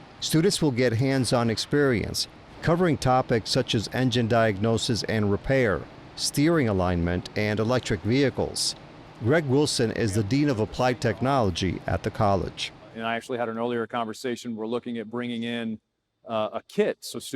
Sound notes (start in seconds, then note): 9.2 men talking in background